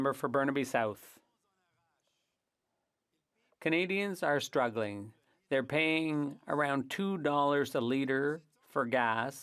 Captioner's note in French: voix de l'interprète